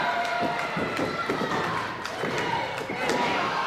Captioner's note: thudding